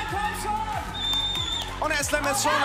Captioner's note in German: Pfiff